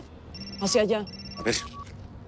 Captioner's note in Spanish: Suena el celular